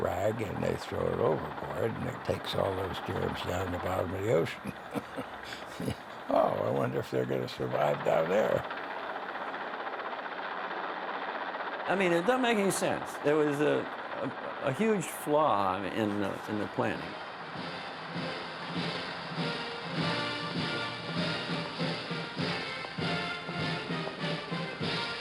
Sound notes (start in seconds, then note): 5.7 chuckling; 18.0 fanfare playing